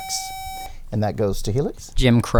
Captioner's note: buzzer